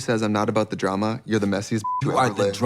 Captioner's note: beep